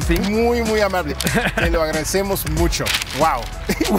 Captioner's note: speaking in a foreign language